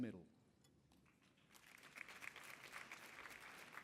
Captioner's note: applause